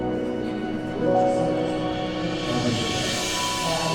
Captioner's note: crowd chattering